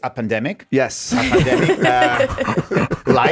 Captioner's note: laugh